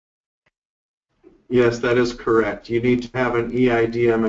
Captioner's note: voiceover